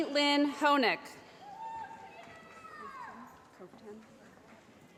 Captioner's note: shouting